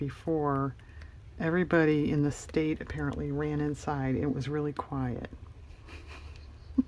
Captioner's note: laughs